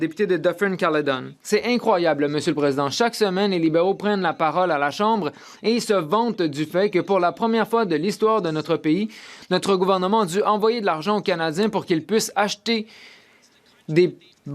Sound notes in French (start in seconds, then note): 5.2 voix de l'interprète